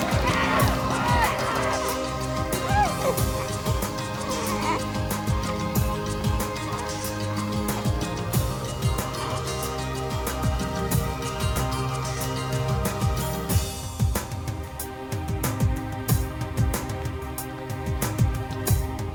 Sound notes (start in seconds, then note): 4.0 baby coos; 5.8 dramatic music